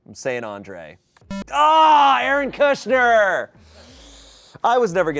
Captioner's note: electronic beep